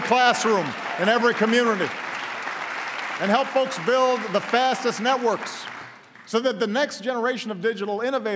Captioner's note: applause